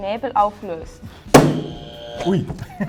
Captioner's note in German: buzzer